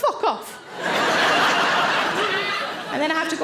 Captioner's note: audience laughing